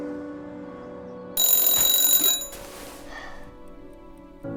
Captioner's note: alarm ringing; Lily yawning